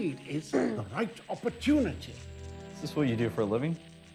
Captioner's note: Emma clears throat